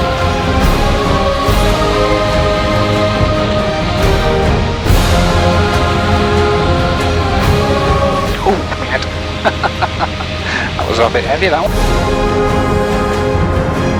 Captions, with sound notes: Ooh me head (laughs). That was a little bit heavy.